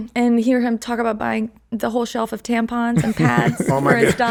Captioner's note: laughs